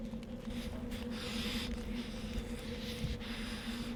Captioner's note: breathing heavily